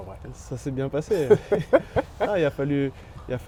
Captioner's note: laughs